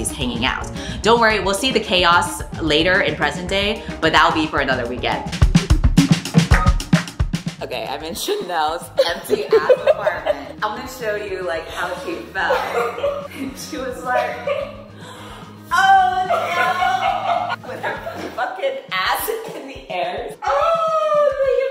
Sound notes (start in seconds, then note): 15.0 gasp